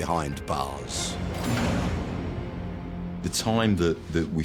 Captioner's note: dramatic music; steel door clunking